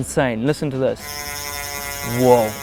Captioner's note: bike wheels spinning